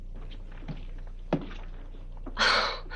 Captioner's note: shoes thudding